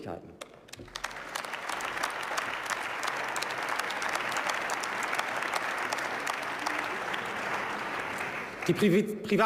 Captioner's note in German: Beifall